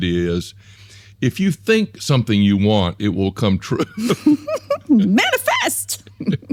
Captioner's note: laughs